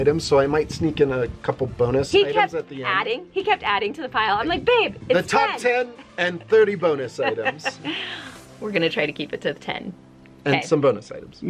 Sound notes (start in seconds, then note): 5.8 laughs